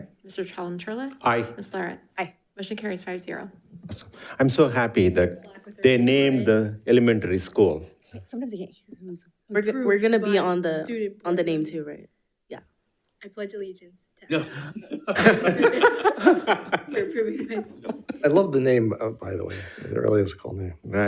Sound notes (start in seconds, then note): 14.3 all laughing